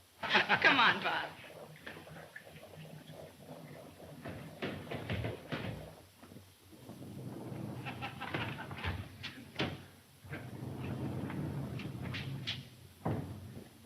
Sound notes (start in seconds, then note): 0.2 Bob laughing; 6.8 door clattering; 7.9 Bob laughing